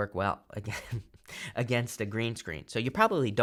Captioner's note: chuckling